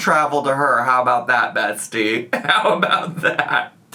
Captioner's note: laughs